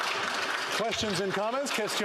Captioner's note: applause; speaking Indigenous Language